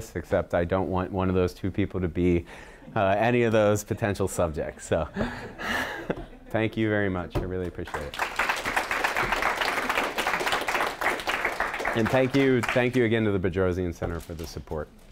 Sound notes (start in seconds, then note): 5.6 laughing; 7.8 applause